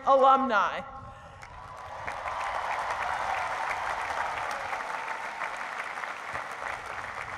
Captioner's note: applause